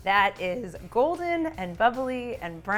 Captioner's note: none